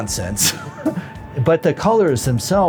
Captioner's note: laughs